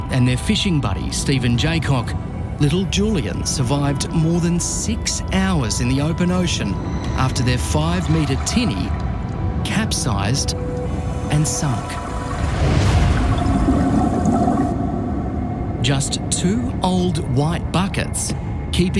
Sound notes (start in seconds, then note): 12.5 water draining